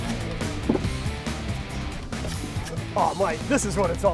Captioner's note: brick thudding